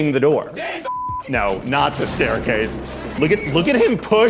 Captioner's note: beep